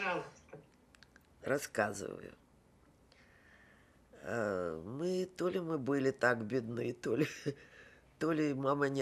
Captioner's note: laughing